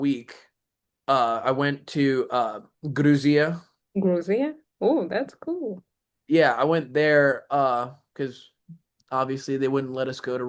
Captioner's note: russian